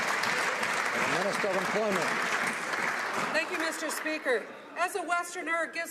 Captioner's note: some Applause